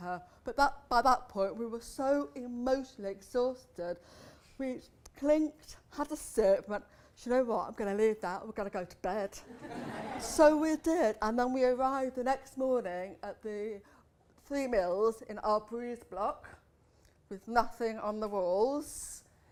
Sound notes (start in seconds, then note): 9.4 laughter